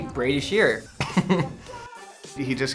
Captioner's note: laughs